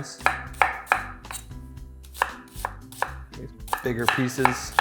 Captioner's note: chopping onions